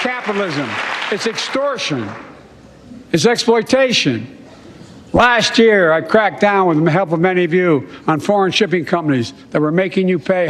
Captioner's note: applause